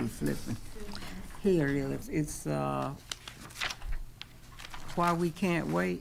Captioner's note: pages rustling